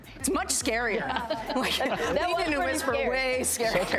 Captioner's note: laughing